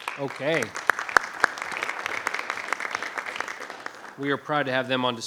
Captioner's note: group applauds